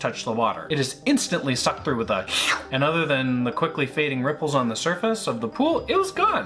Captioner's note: slurp